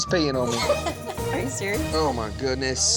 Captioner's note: laughing